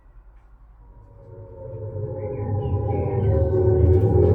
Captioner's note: air raid siren and sounds of planes overhead